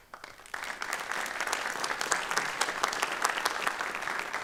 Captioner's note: applause